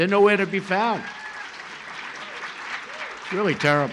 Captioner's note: applause